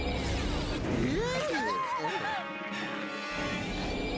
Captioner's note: all screaming